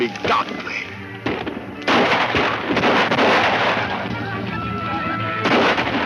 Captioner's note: speaks in foreign language; gun shots